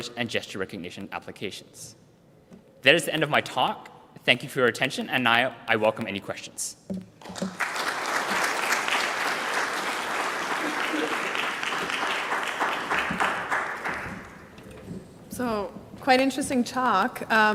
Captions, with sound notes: and gesture recognition applications. That is the end of my talk, and thank you for your attention. And I welcome any questions. (applause) - So quite interesting talk.